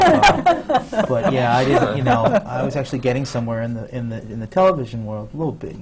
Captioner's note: laughter from the panel